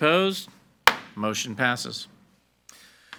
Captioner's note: gavel bangs